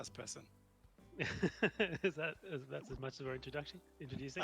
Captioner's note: laughing